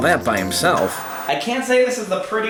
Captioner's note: static